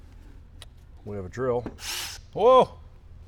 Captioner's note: drill buzzes